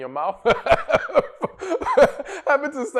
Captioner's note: laughter